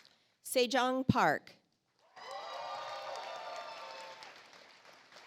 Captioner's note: audience applauds